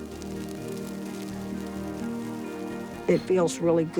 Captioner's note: fire crackles